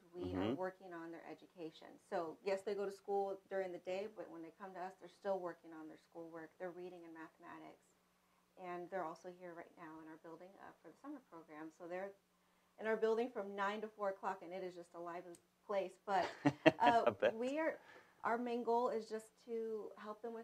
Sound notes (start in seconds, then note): 16.2 laughs